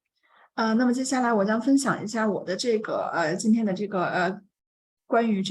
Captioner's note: continues speaking in Mandarin